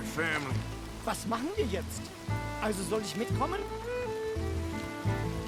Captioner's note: in German